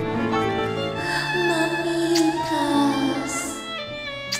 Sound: emotional music; dreamy voice in Spanish

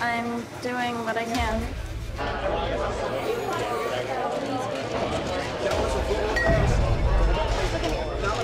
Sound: loud chatter

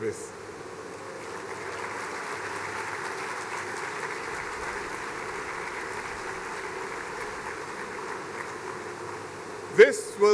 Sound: applause

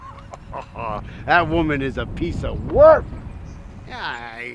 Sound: laughs

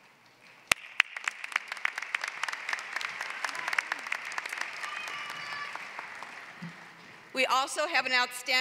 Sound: applause

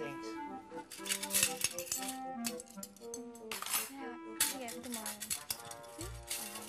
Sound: utensils cluttering

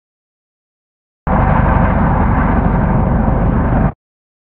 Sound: muffled whirring

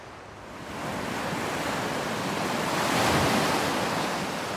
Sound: waves crash

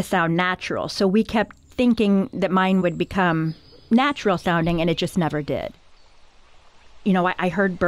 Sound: bird sounds

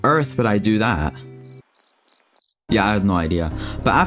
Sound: crickets

